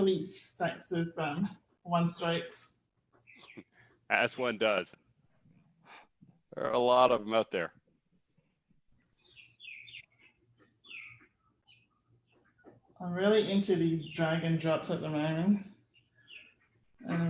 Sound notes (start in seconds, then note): 3.3 chuckles